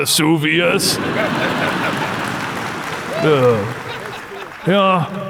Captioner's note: crowd laughs and cheers